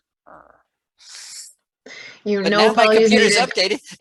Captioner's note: scoffs